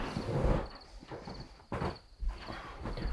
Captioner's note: bed creaking; Arawn sighing